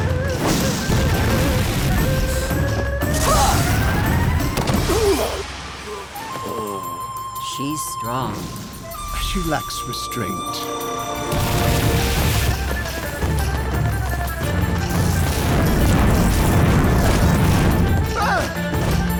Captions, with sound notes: [grunting] [groaning] She's strong. But she lacks restraint. [grunting]